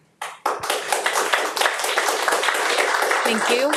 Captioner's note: audience applauding